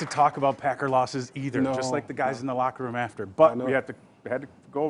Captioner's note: applause